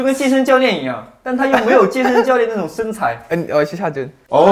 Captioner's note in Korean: 음흉한 웃음